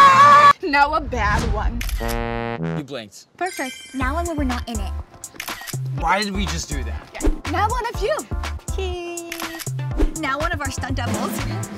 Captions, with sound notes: Now, a bad one. - You blinked. - Perfect. Now, one where we're not in it. [camera flashing] Why did we just do that? Now, one of you. Cheese. Now, one of our stunt doubles.